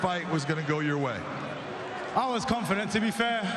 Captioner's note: cheers and applause